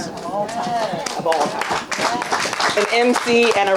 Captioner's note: audience applauding